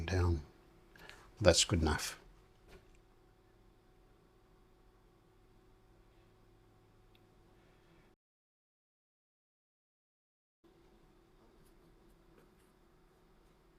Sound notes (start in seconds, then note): 2.8 silence